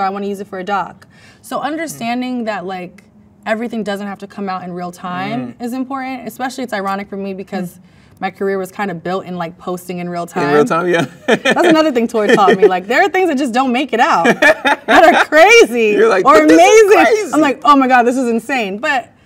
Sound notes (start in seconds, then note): 10.4 laughs; 14.2 man laughs